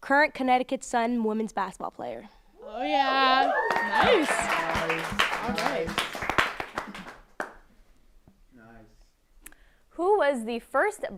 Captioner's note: applause